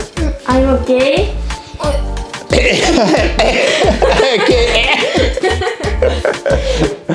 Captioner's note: laughing